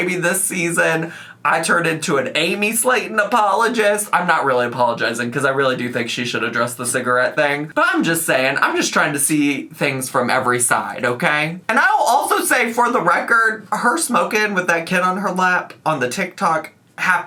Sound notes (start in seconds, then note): none